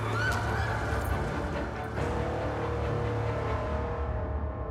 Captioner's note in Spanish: se oyen los gritos